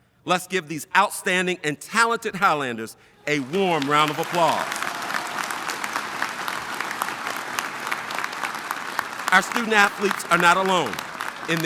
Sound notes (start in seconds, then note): 5.0 audience applauding